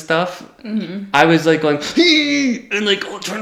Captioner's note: grunting